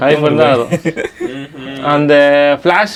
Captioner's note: group laughs